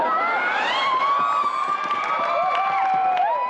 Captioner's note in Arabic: الحشد يعوي بالضحك والهتافات